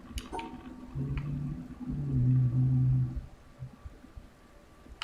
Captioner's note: humming